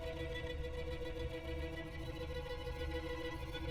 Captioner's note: none